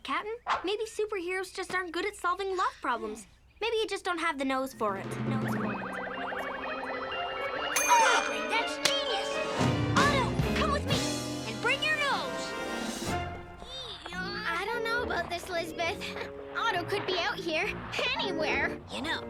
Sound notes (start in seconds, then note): 5.0 mysterious music; 5.7 echos